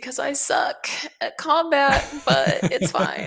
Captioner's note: laughs